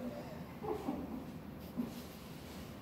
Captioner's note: chuckle